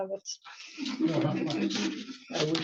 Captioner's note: laughter